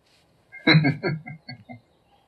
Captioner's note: chuckling